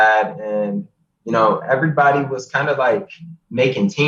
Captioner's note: laughs